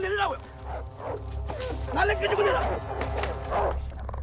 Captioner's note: speaking Korean; barking, Snarling